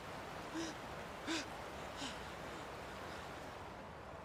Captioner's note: gasping